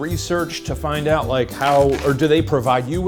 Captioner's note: hat rustling